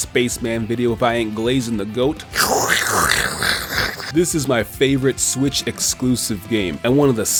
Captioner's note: bj sounds